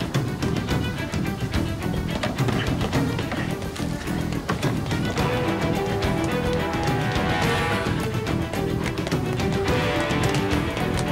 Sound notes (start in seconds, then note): 1.9 sniffs; 4.7 car sounds